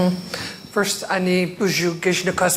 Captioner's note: speaking in foreign language